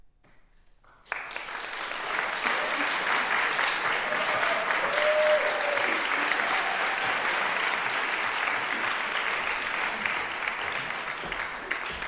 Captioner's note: applause